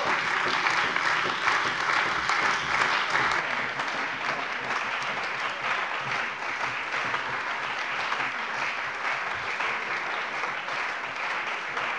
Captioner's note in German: Anhaltender lebhafter Beifall bei der CDU und dem BÜNDNIS 90/DIE GRÜNEN